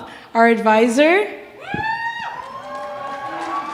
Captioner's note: cheering